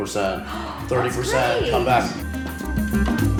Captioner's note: gasps; upbeat music continues